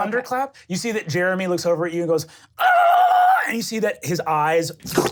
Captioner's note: squealing